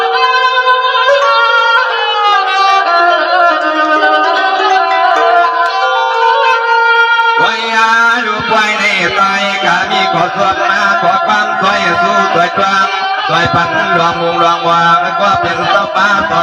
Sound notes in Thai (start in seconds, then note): 5.5 ปรบมือ